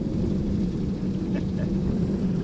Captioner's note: laughing